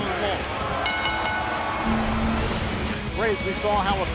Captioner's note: bell ringing